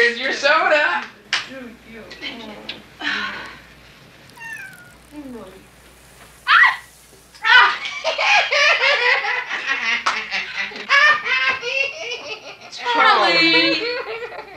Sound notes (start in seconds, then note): 5.3 gulping; 6.5 screams; 9.0 laughs